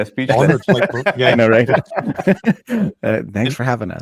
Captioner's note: panelists laughing